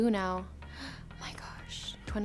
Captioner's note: gasping